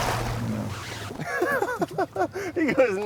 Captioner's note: chuckles